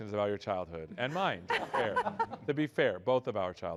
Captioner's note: laughter